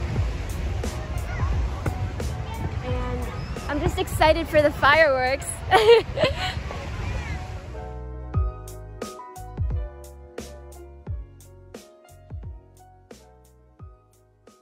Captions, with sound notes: And I'm just excited for the fireworks! (laughs)